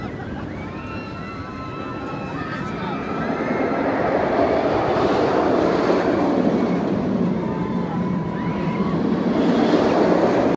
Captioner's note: roller coaster noises